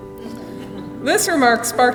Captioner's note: laughing